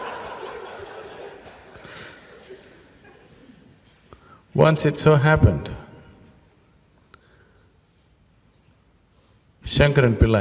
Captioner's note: laughter